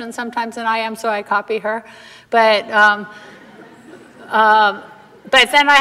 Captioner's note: audience laughter